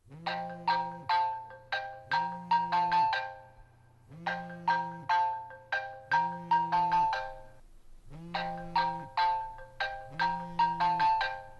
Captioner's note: mobile phone rings